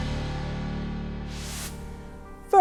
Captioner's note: air whooshing